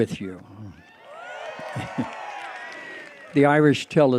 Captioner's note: cheering